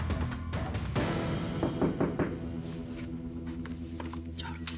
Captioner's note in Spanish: Toques en la puerta